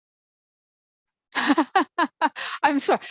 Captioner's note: laughs